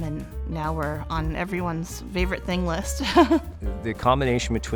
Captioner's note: laughs